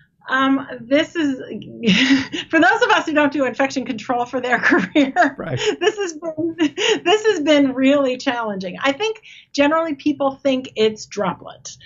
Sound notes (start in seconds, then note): 1.8 chuckles